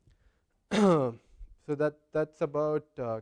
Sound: cough

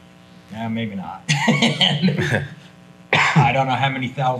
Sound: others chuckling

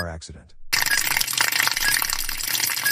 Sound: liquid splattering

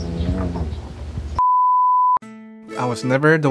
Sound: peeeep

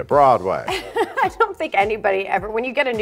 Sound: laughing

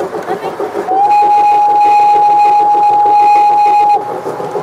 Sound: long whistle

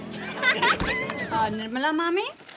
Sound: group laughs

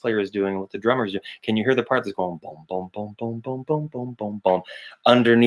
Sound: mimics bass booming

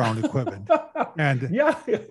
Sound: laughs

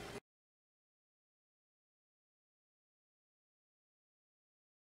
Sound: silence

